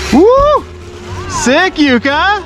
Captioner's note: man cheers